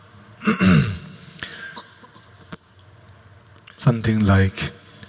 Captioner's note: clears throat